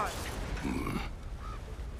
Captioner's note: grunt